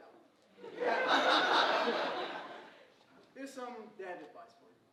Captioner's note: audience laughing